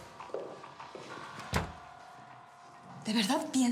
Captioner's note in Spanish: sonido al cerrar la puerta